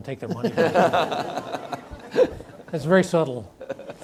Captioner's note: audience laughs